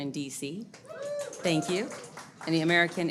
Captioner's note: audience applauds